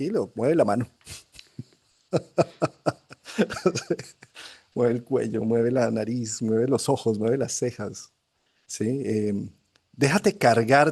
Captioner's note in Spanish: risas